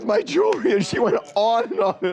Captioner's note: laughter